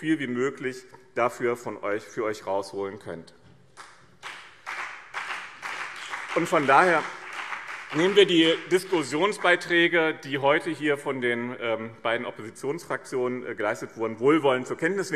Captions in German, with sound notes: wie möglich dabei für euch herausholen könnt. [Beifall BÜNDNIS 90/DIE GRÜNEN und CDU] Deswegen nehmen wir die Diskussionsbeiträge, die heute hier von den beiden Oppositionsfraktionen vorgetragen wurden, wohlwollend zur Kenntnis.